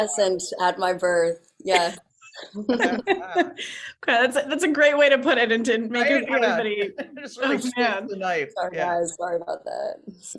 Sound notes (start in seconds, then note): 2.3 all laughing